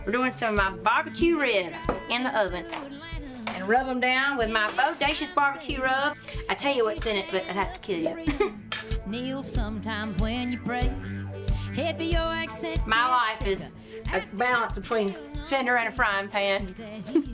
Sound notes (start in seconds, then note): 8.0 chuckles; 17.0 laughs